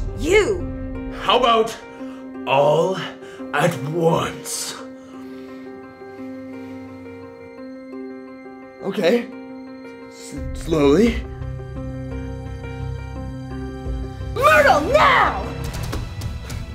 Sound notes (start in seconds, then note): none